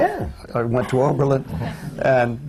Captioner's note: laughter